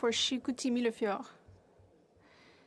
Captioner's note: speaking French